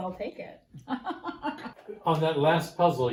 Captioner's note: laughter